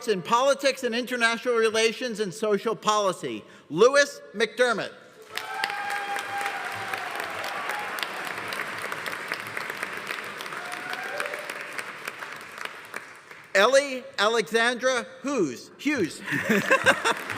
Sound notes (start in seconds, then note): 5.2 audience applauding; 5.2 audience cheering; 16.2 laughs; 16.5 audience applauding; 16.9 audience cheering